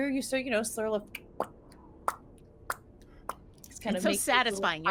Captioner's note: lips popping